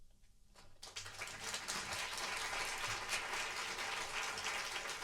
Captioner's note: applause